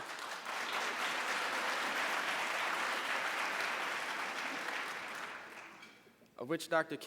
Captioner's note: applause